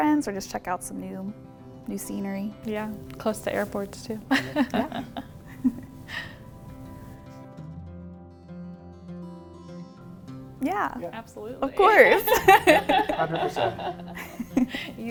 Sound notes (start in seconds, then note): 4.3 chuckling; 9.6 gentle music